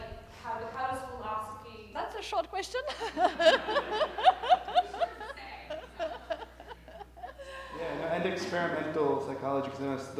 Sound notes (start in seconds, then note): 2.7 laughs; 2.8 audience laughter